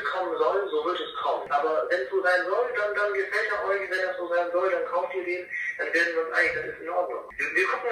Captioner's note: phone; phone